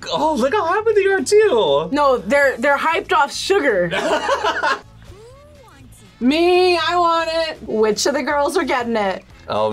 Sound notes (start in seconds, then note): 3.9 laughs